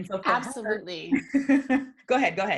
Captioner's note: laughs